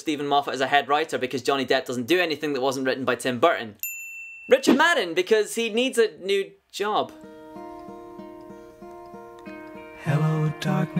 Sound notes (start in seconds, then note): 3.8 bell dings